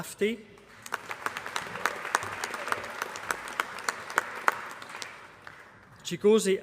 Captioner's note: applause